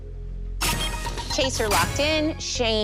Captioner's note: chime, chime